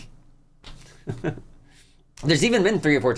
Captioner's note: awkward laugh